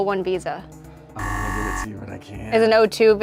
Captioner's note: buzzer buzzes